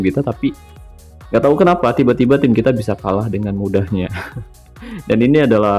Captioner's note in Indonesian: tertawa